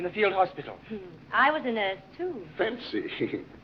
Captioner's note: laughs